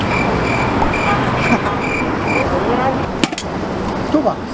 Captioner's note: crickets sound effect